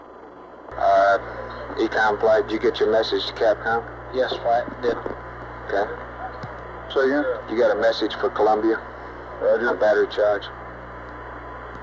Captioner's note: mission Control Audio